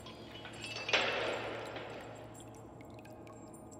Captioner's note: chains rattling